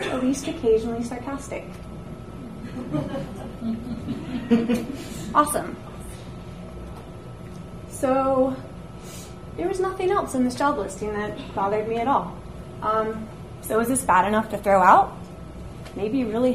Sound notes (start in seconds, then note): 2.6 audience laughs